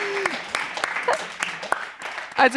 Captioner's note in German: Zaghafter Applaus